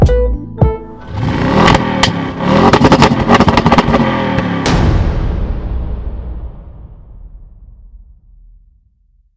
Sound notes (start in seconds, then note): 1.0 engine revving; 4.4 bang